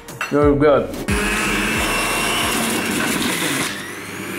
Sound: blender whirs

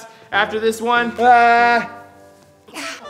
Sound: gasps

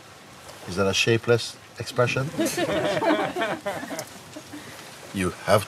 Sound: Lachen

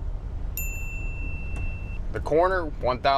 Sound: beep

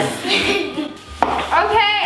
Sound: laughs

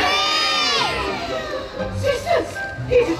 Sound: the sisters exclaim in surprise

